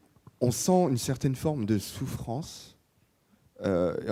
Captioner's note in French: none